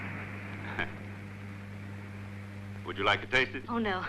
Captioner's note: chuckling